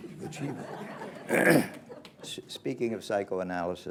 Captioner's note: laughter